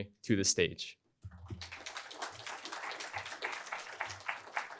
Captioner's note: applause